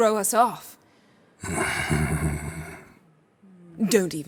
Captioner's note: chuckles mischievously